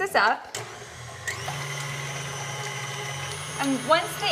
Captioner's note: mixer whirling